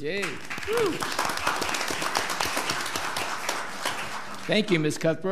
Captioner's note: audience applauding